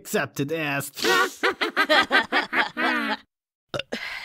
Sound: chuckles; laughs; burps

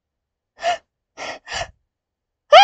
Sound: sharp breathing; short scream of fear

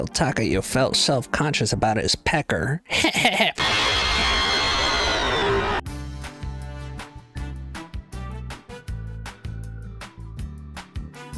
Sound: monster noise

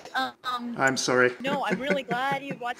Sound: laughs

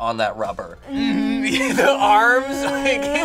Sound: laughs

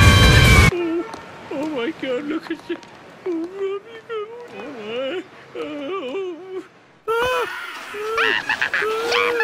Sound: noises of true fear

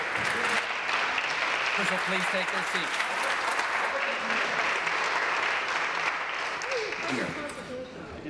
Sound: some Applause

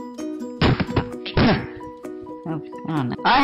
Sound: smacking computer

